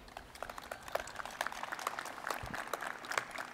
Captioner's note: crowd applauding